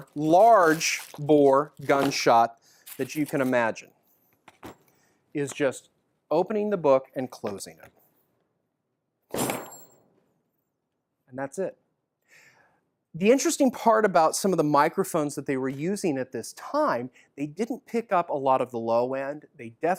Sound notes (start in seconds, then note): 9.3 book slams